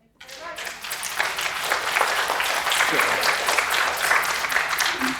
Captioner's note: students applauding